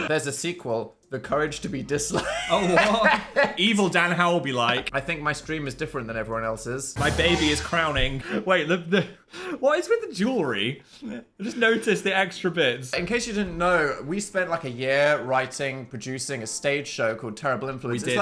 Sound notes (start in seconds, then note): 2.1 Dan laughing; 2.2 laughing